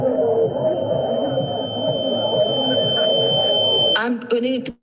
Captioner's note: sharp electronic beeping